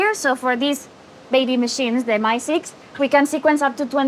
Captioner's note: none